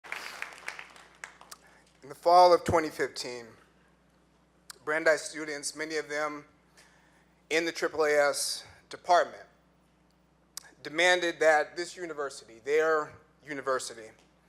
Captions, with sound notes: (clapping) - In the fall of 2015 Brandeis Students many of them in the AAAS department, demanded that this university, their university,